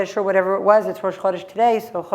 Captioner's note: hebrew